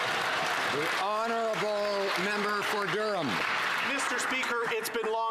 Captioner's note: some Applause